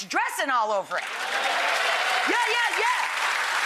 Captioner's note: audience applause